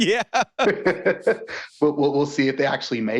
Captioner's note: both laughing